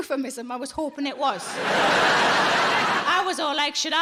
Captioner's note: audience laughing